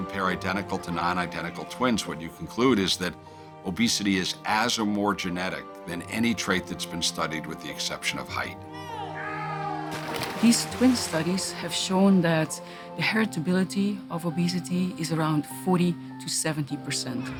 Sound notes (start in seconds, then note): 8.6 shouting